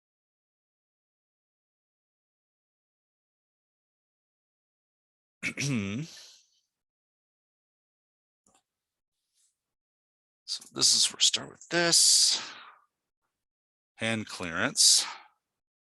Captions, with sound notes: (clear throats) So this is where we start with this, hand clearance.